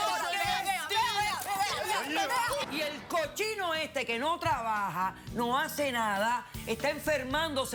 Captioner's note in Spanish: gritos y exclamaciones